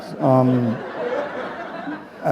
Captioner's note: laughter